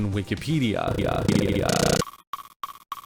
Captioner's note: stuttering sound